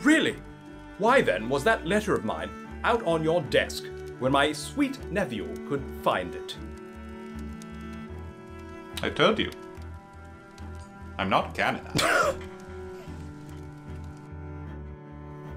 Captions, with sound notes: Oh, really? And why, then, was that letter of mine out on your desk where my sweet nephew could find it? I told you. I’m not canonized. (laughs)